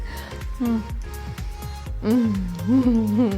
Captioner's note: moaning